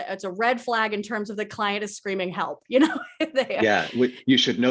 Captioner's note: laughs